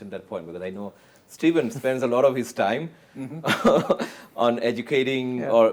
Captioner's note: chuckles